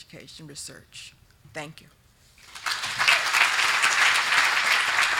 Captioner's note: group clapping